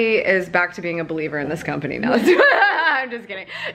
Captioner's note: laughs